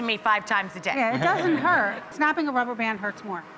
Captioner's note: laughs